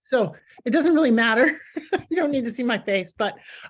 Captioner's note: laughs